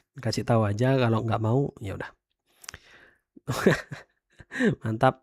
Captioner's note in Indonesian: tertawa